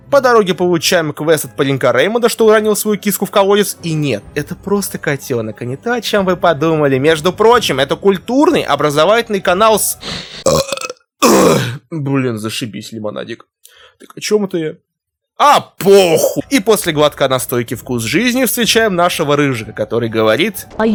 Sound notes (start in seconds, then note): 10.2 belching